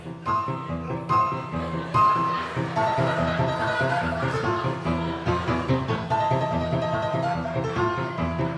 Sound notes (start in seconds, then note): 0.1 audience laughing